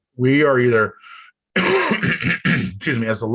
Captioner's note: coughs